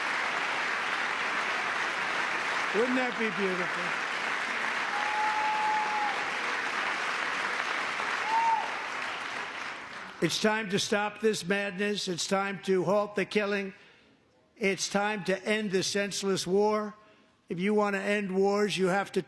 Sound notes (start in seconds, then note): 0.0 applause; 8.3 cheering; 9.9 applause